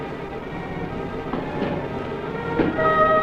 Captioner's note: plank thuds